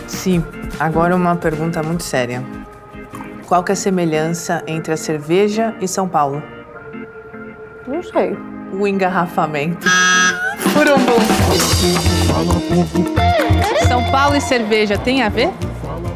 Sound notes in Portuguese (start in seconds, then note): 9.8 efeito de buzina